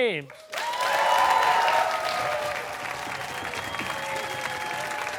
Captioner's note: cheers and applause